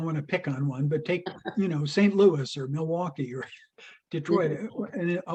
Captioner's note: laughs